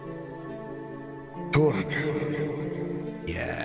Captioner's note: echoing